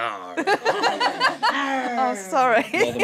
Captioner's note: laughter